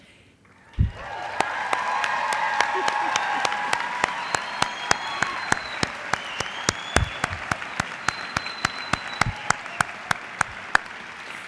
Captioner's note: applause